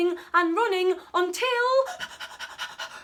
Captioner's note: panting